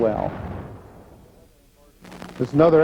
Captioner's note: missile exploding